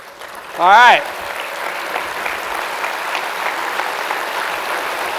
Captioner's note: audience applauding